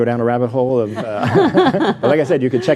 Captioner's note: all laughing